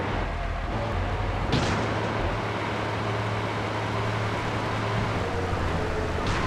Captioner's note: gun firing